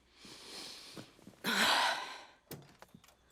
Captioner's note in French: soupirs